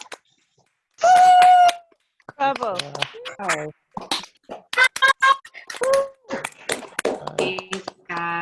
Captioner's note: clapping